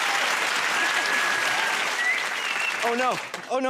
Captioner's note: whistles